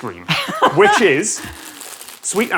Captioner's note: laughs